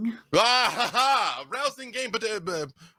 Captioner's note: laughing